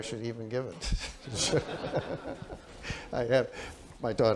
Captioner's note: laughter